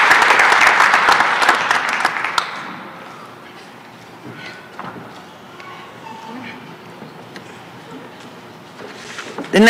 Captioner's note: applause